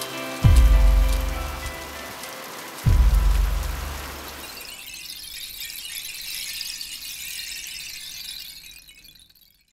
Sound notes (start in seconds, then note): 0.0 shaker fades out; 0.0 guitar fades out; 2.7 rain continues; 4.7 tinkling of rainstick